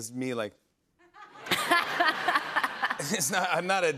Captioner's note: laughter